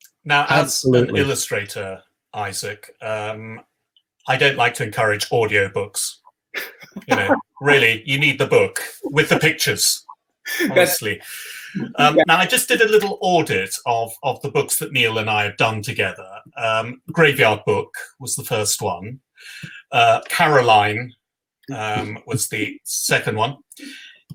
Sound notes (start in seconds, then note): 6.6 laugh